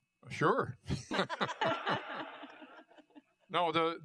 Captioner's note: laughter